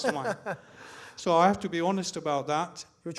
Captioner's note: host laughing